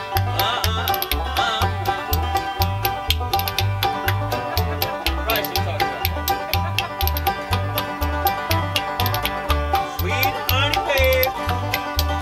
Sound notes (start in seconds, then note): 4.3 spoons player laughs; 7.7 cheerful folk music